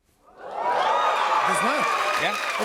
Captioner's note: cheers and applause